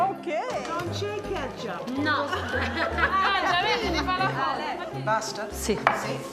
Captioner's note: speaking Italian